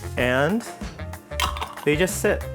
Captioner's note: jar lid rattles